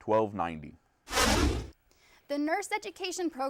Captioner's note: whooshing